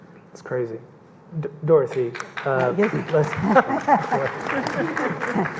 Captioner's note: audience clapping